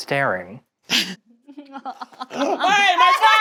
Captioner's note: laughing